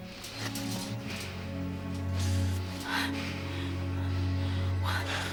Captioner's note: both breathing heavily